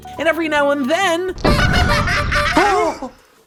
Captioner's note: clown horns, laughter